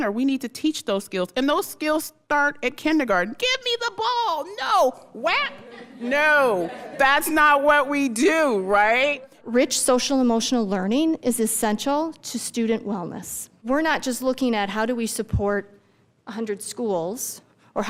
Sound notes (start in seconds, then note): 5.3 crowd laughing